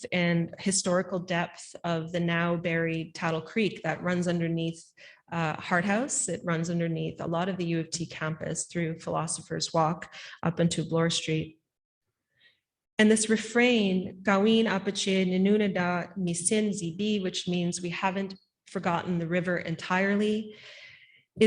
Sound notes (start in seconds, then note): 14.5 speaking Anishinaabemowin